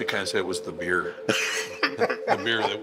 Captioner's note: laughs